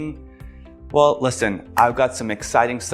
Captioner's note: hands clapping